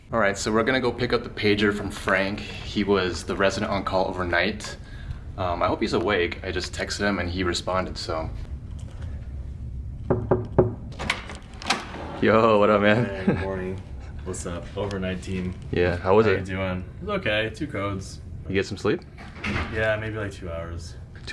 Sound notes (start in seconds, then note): 10.0 door knock